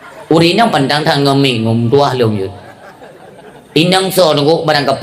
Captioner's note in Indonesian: tertawa